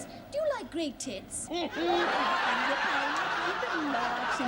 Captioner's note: laughter